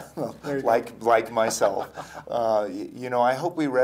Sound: laughing

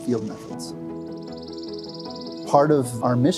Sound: bird chirps

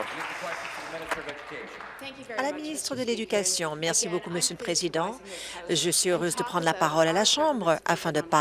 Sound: some Applause

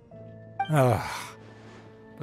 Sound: sigh

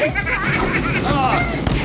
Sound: Heroes laughing

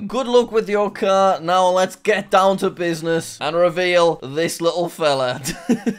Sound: laughs

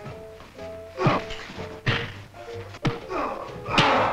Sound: men grunting

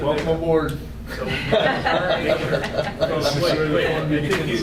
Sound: laughing

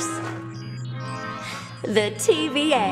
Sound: beeping

